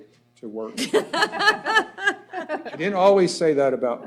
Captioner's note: laughter